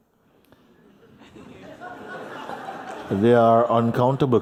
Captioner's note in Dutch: gelach